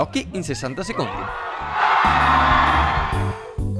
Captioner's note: applause